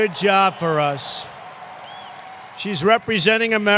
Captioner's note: applause